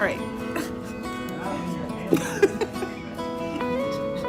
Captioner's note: laughing